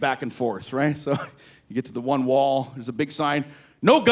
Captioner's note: laughs